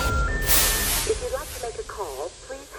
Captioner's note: dial tone beeping